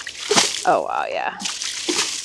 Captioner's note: liquid splashing